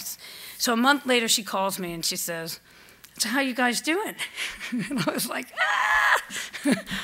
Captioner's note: laughs